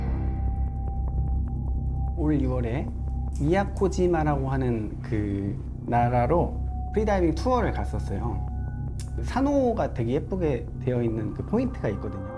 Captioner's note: voiceover